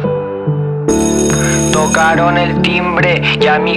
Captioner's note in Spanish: sonido de campanas